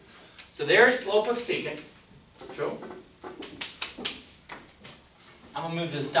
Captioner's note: claps